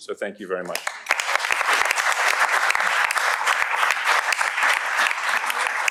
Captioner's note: applause